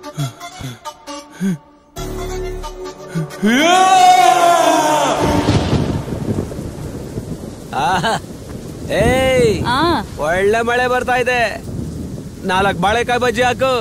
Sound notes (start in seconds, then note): 5.2 thundering